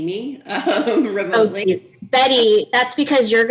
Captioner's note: laughs